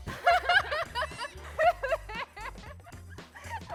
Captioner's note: laughter